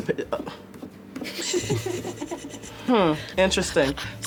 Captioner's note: laughter